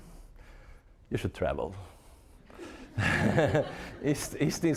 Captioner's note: audience laughing